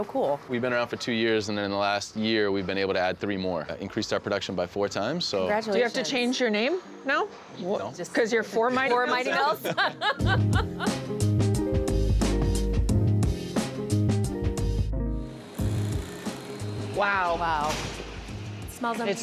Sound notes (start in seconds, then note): 9.3 laughter